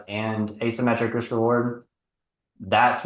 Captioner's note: none